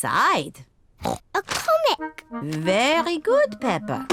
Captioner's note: oinks